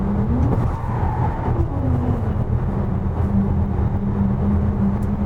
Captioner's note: sound of car rolling over rumble strips